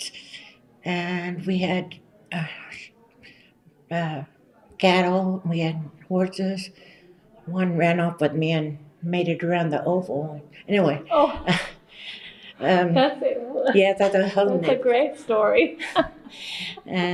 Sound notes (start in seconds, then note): 11.1 laughter